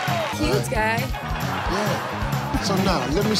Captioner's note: contestants singing; audience laughing